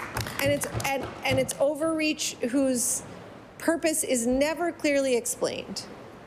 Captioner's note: applause